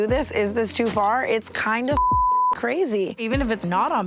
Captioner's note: beep